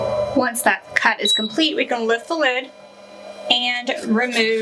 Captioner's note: machine beeps